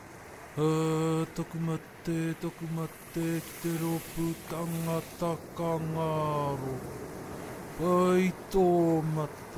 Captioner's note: speaking karakia in Māori